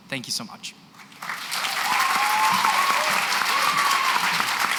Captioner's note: cheering and applause